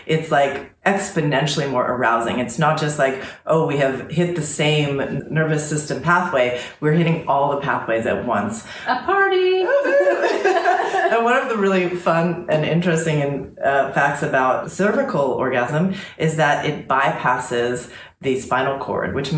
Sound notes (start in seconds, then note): 9.7 laughter